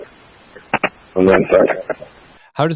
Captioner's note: radio traffic